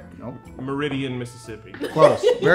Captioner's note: laughing